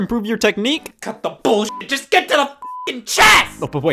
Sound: beep

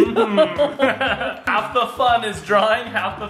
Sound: laughing

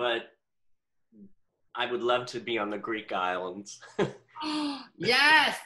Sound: giggles

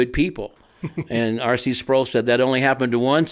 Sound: co-hosts chuckle

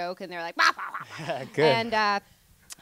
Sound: laughs

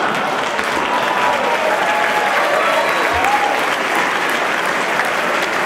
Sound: applause

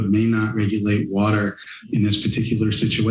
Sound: inhales

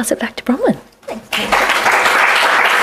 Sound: applause

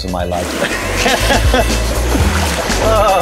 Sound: laughing

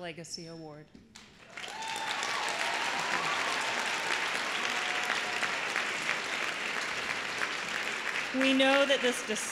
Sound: applause

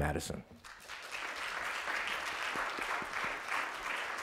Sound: applause

